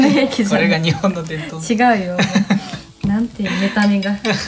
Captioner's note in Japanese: 笑い